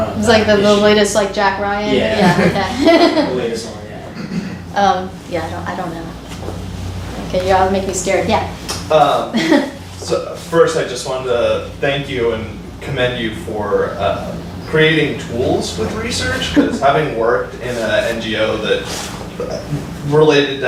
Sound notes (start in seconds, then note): 4.6 faintly speaking